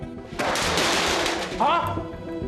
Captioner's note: tray clattering